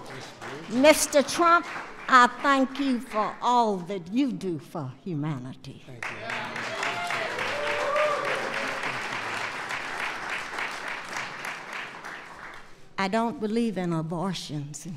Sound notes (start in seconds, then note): 6.0 applause